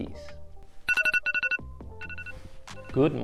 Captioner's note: phone alarm sound plays